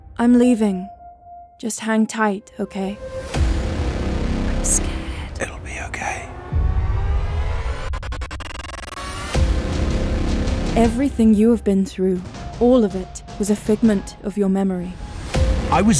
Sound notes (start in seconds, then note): 4.6 Emma, whispering; 5.4 Ashaar, whispering